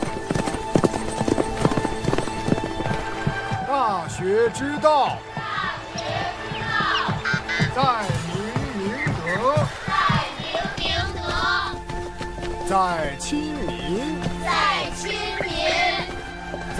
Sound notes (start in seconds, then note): 5.3 children reciting